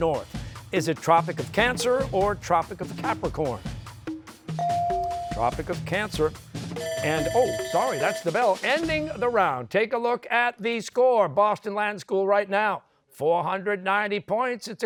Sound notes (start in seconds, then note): 6.8 bell ringing